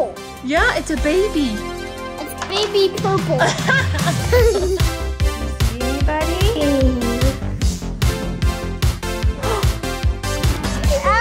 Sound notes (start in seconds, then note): 3.4 both laughing; 5.5 upbeat synthesizer music